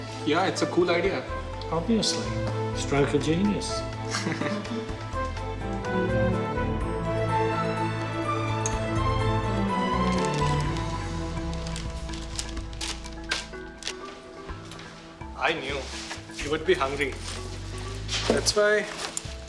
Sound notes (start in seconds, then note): 4.1 laughter